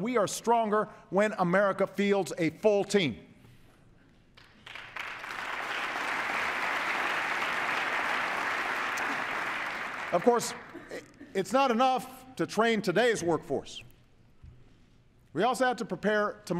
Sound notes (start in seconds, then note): 4.3 applause